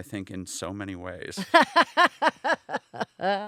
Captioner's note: laughing